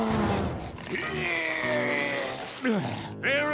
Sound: grunting

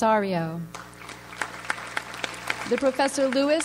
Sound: audience applauds

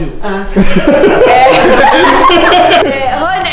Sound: everyone laughs

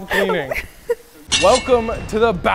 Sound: giggles

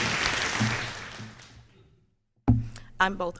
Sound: applause

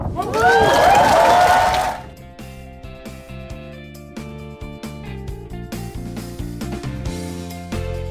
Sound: applause

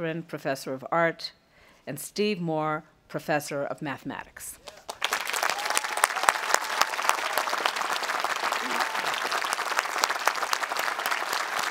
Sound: audience applauding

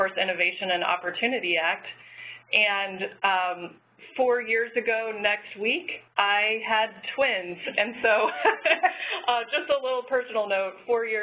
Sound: laugh

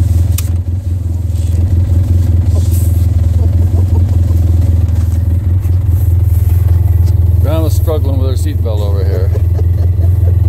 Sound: grandma laughing

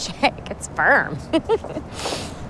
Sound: giggling

